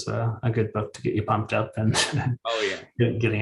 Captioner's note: chuckles